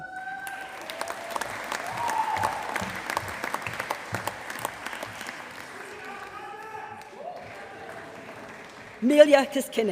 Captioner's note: applause